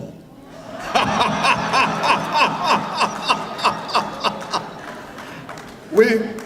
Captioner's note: laughter